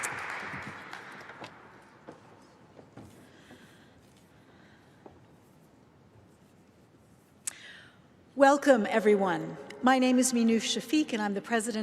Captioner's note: applause